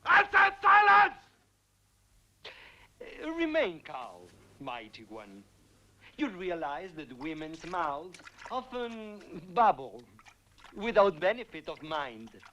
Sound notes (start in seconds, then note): none